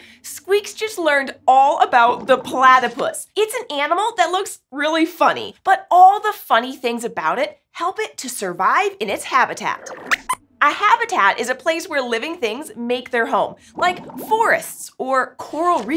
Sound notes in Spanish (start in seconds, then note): 9.8 Squeaks chirría